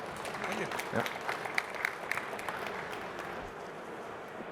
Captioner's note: applause